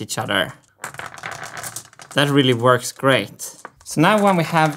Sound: marbles rolling

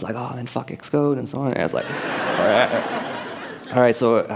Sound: laughter

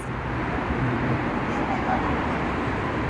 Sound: cars going past

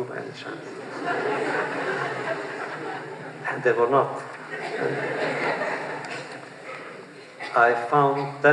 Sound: laughter

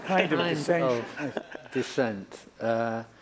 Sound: laughter

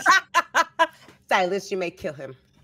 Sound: laughing

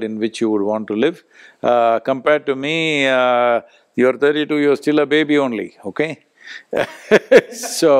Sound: both laugh

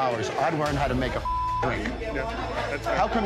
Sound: beep

